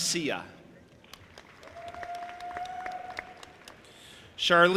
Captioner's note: audience applauding and cheering